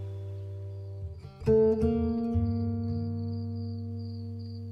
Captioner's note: crickets chirping